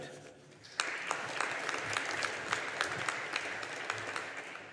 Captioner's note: audience applauding